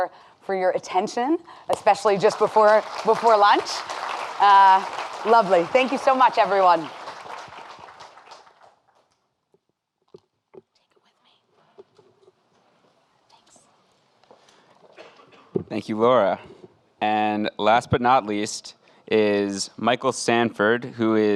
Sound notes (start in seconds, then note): 3.7 audience applauding